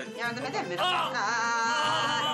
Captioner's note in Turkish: Bağırıyor